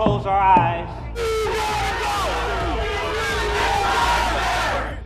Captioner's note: people protesting